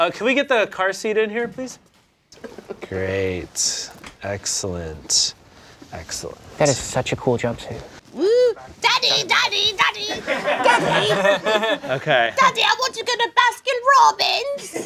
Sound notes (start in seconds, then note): 10.0 background laughter